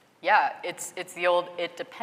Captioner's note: none